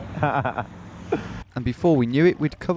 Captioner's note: laughing